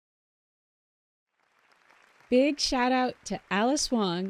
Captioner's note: applause throughout